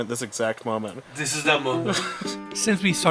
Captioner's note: chuckles